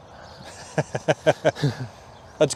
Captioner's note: laugh